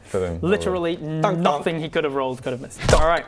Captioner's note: donk donk